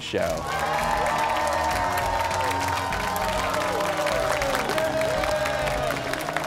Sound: cheers and applause

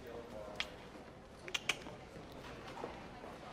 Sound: ABED clicks his tongue twice; PIERCE clicks his tongue

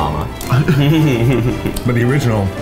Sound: all laughing

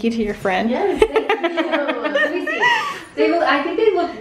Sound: laughing

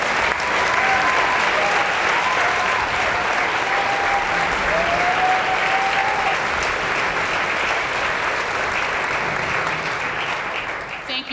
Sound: applause

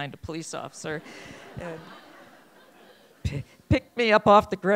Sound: laughing

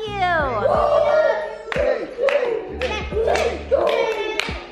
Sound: chanting and applauding

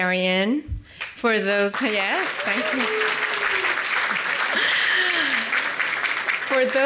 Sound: audience Claps

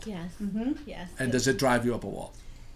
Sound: voiceover

